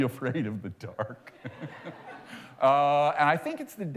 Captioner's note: laughter